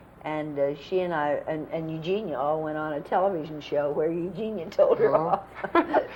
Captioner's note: laughter